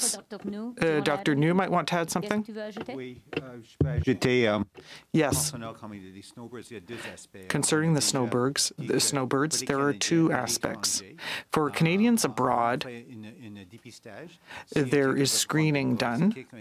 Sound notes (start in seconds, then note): 6.5 speaking French